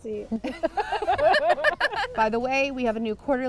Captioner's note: all laugh